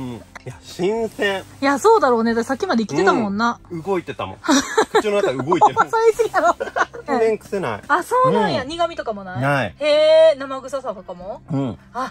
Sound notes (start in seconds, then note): 4.5 laughs